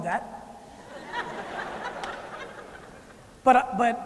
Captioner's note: laughter